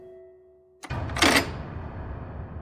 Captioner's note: door latch opens